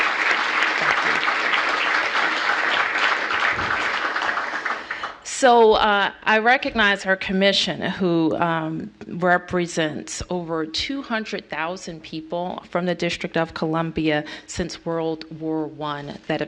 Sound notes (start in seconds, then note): 3.2 applause